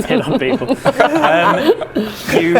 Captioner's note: inappropriate workplace laughter